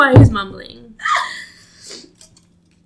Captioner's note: makes weird noise followed by a sniff